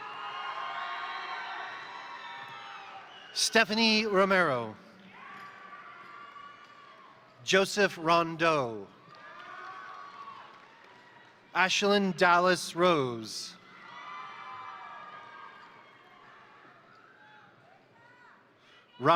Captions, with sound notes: (crowd cheering) (crowd applauding) Stephanie Romero, (crowd cheering) (crowd applauding) Joseph Rondeau, (crowd cheering) (crowd applauding) Ashlynn Dallas Rose, (crowd cheering) (crowd applauding)